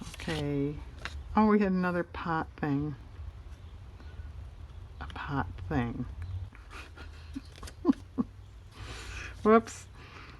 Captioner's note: laughs